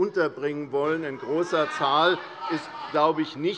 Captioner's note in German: Lachen und Zurufe von der SPD und der LINKEN